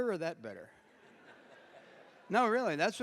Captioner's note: laughter